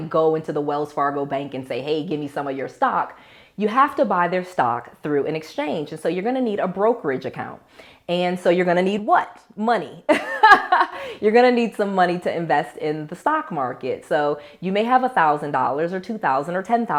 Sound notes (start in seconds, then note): 10.2 laughs